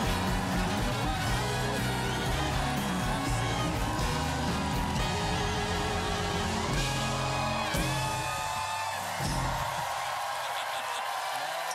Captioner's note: cheers and applause